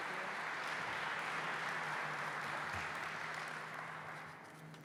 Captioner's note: applause